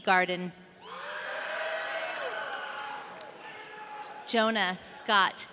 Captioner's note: audience cheering